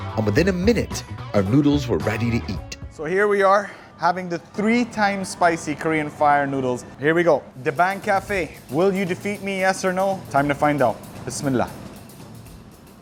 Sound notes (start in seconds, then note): 11.1 speaks Arabic